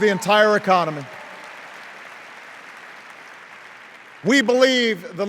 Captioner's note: cheers and applause